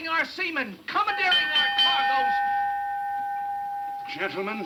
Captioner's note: bell clanging